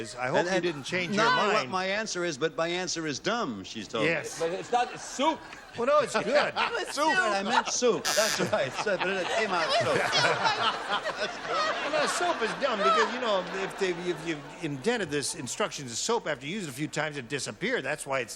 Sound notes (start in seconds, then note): 10.0 laughter